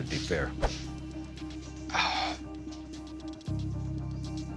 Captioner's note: exhales